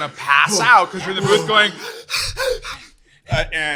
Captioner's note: heavy breathing